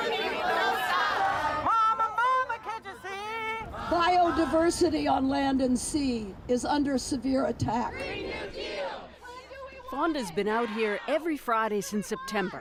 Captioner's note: chanting